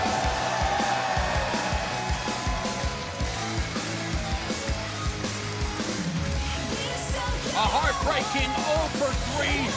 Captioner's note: crowd cheering